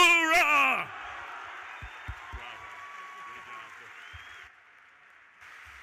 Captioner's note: audience applauding